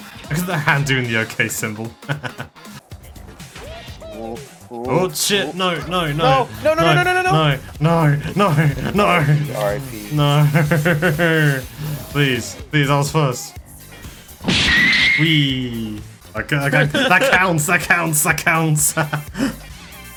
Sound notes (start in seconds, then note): 14.4 Dragon Ball Z Heavy Punch SFX